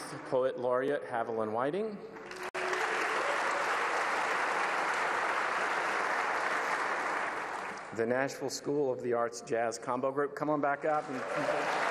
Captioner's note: applause